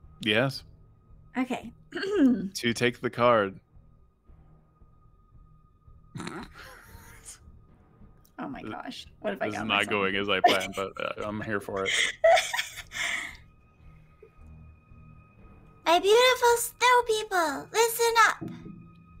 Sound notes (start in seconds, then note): 1.9 clears throat; 6.2 laughs; 10.2 laughs; 12.4 continues laughing